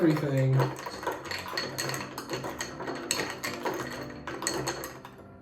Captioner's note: spoon clinking against glass